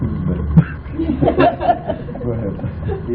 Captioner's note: laughter